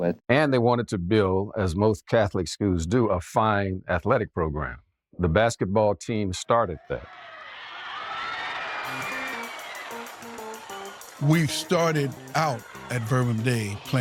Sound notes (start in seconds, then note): 8.6 crowd cheering; 8.8 upbeat music